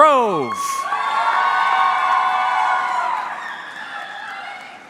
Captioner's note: audience cheering